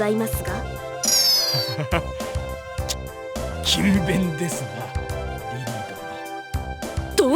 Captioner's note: awkward laugh